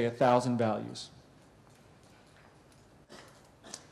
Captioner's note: pause